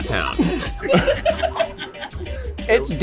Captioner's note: laughter